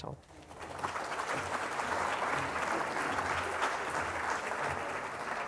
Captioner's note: applause